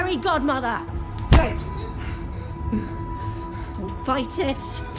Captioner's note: pipe thuds